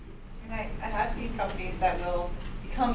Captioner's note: voiceover